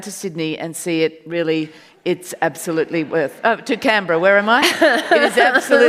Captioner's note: audience laughs